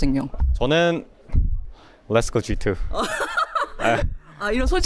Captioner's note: laughs